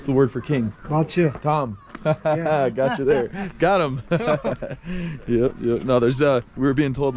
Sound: speaking local language

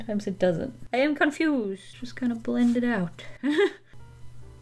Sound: chuckles

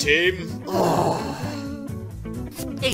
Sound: Lyre and Frisbee groan

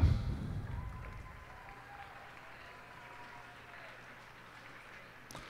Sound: cheers and applause

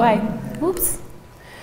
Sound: person speaking in background

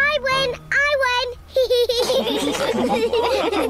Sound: all laugh

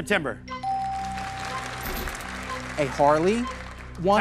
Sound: bell dings

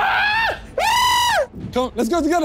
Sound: screaming

